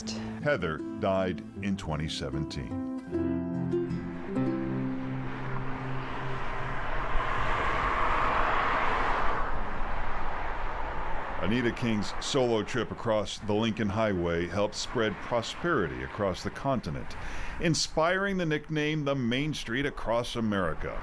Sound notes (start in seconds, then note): 9.5 cars revving